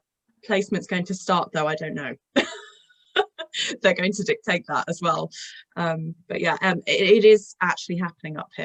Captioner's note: laughter